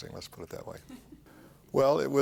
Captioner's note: chuckles